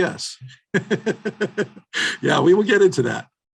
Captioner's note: laughing